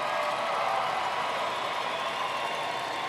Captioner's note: applause